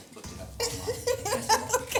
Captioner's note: laughs